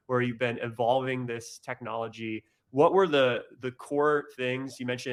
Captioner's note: none